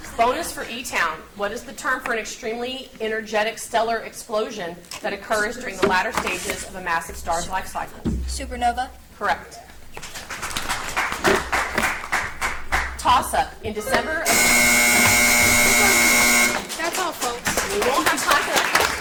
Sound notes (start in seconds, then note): 10.0 audience applauds; 14.2 buzzer beeps; 14.2 buzzer buzzes; 18.7 audience applauds